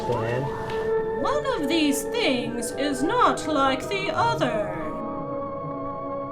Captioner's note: voiceover